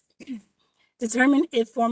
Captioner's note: clearing throat